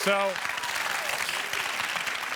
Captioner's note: cheers and applause